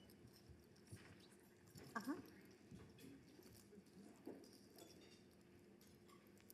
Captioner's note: beads clicking; silverware clacking